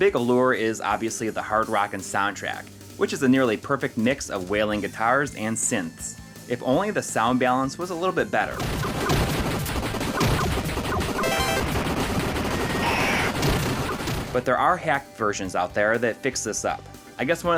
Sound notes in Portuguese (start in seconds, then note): 10.6 game audio